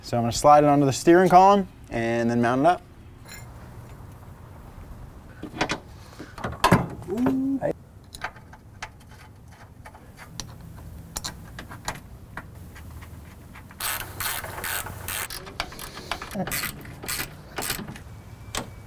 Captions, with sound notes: So I'm gonna slide it onto the steering column, and then mount it up. Ooh! (ratchet clicking)